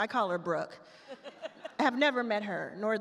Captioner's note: all laugh